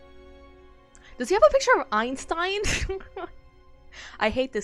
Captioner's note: laughs